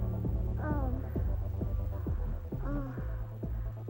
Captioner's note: Iris moaning